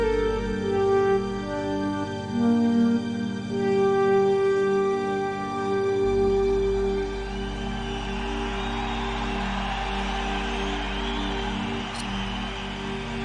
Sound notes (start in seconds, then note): 3.9 cheering and applause